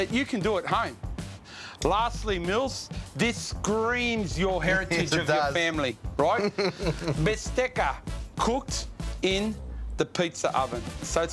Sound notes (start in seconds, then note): 6.3 laughs